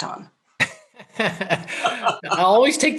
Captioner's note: laughing